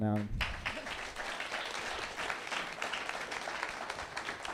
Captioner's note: attendees applauding